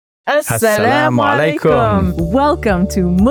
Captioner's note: foreign language